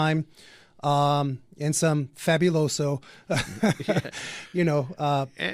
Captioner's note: both laugh